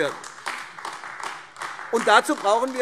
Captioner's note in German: Beifall AfD - Lebhafter Widerspruch